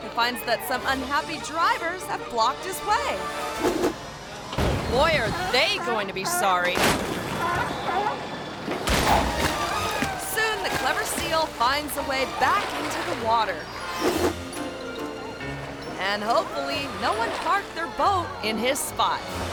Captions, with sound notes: he finds that some unhappy drivers have blocked his way. (air whooshes) (tense music) Boy, are they going to be sorry. (car rattles) Soon the clever seal finds a way back into the water. (air whooshes) (bright music) And hopefully, no one parked their boat in his spot.